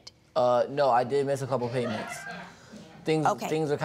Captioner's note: audience titters